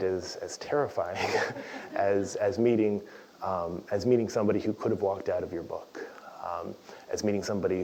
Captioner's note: laugh